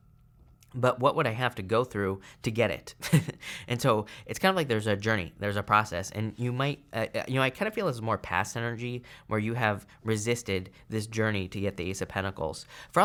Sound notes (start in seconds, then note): 3.0 chuckles